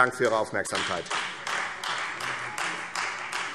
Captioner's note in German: Beifall Freie Demokraten